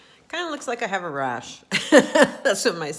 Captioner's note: laughing